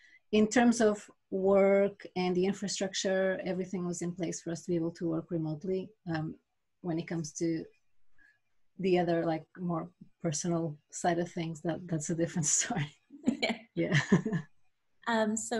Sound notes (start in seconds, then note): 13.2 laughs